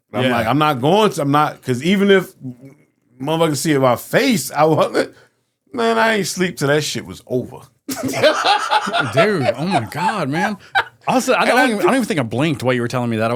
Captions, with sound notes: I'm like, I'm not going to, I'm not, because even if motherfucker see it in my face, I want it, man, I ain't sleep till that shit was over. (laughing) Dude, oh my God, man. I don't even think I blinked while you were telling me that.